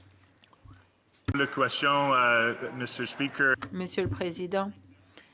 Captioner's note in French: voix de l'interprète